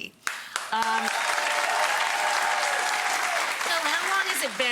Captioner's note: audience applause